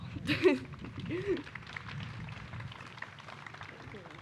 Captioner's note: applause